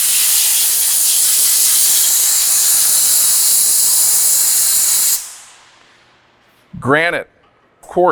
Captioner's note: air blowing